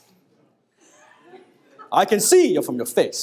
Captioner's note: audience laughing